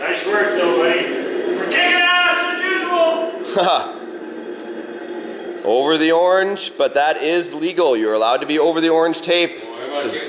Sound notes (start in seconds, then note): 2.5 host laughs